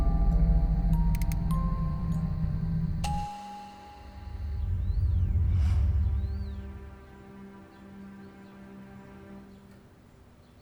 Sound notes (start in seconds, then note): 3.9 birds chirping